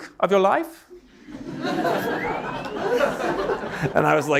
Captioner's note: audience laughing